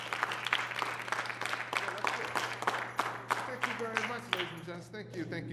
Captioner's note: applause